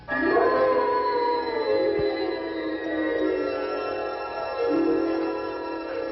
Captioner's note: eerie music; wolves howling